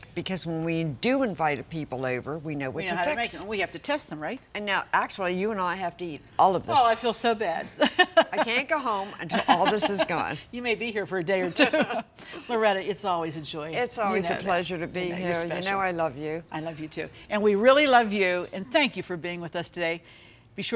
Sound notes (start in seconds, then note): 7.7 laughs; 11.5 both laugh